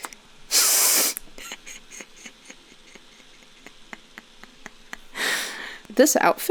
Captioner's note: more laughter